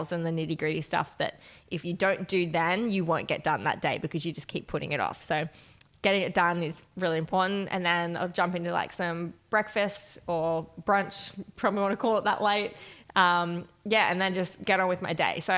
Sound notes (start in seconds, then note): none